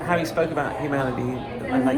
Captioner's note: none